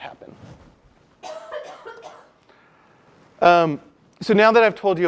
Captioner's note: cough